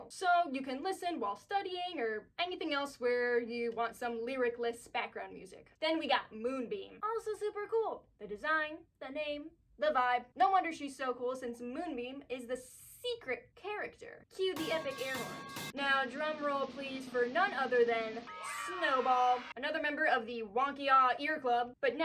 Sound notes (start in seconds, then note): 15.1 metal pipe falling; 18.9 cheering